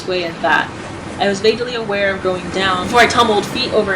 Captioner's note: none